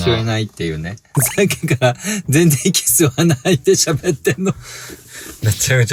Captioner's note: laughs